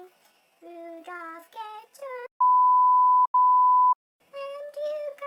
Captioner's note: beep-----beep